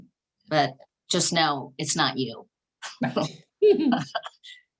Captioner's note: laughs